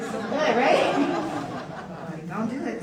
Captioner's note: audience laughs